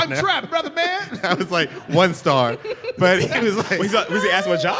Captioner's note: laughter